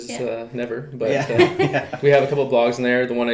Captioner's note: laughing